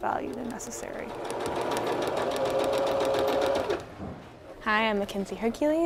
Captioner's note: sewing machine clacking